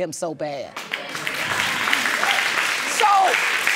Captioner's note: audience claps